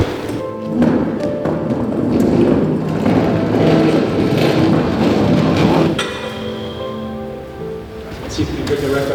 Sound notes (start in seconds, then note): 2.5 loud chair noises